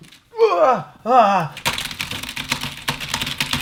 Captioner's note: frantically typing